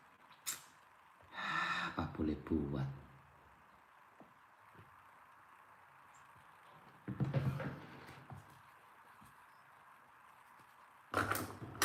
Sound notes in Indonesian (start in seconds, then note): 1.3 menghela napas; 3.1 terkesiap